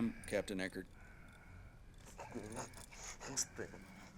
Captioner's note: breathing heavily